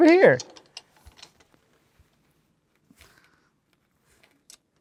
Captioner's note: screws clinking